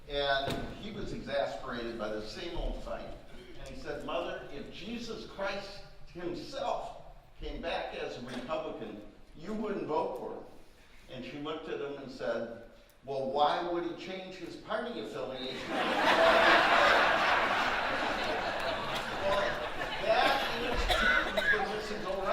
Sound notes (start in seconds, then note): 15.5 audience laughing